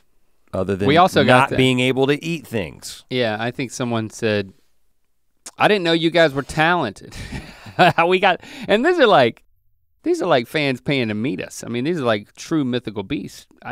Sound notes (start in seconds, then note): 7.5 chuckles